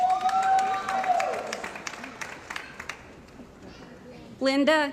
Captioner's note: cheering & Applause